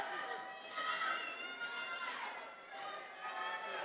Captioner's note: attendees cheering